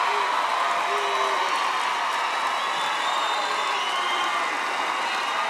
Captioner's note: cheering and applause